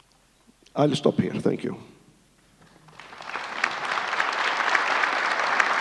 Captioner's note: audience applauds